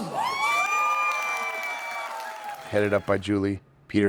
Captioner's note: audience cheering